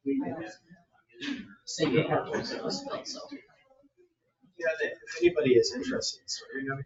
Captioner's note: speaks distantly; speaks distantly